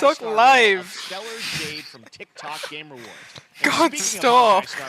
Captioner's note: laughter